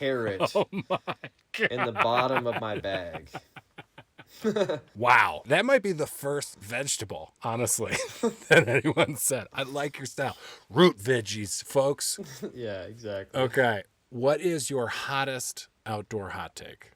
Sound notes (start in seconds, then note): 3.1 laughing